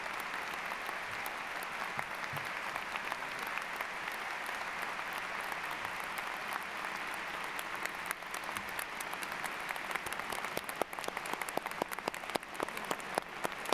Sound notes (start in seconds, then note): 0.0 applause